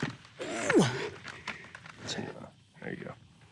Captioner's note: grunting